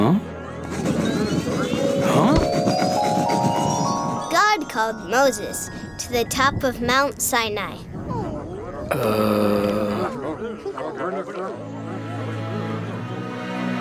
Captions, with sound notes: Huh? Huh? - [Voiceover] God called Moses to the top of Mount Sinai. (crowd murmuring)